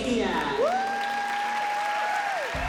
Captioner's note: Abby Lee whooping